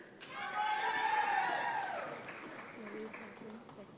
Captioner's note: audience applauds